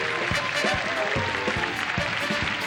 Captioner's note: audience claps and cheers; energetic music